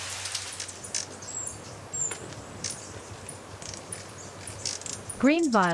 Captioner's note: birds chirping